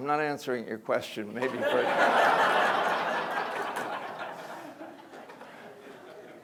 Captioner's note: audience laughter